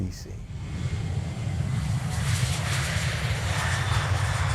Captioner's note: engines roaring